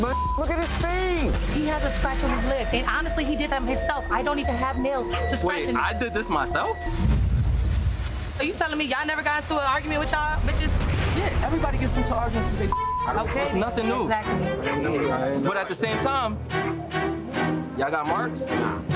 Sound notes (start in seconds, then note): 11.3 beeps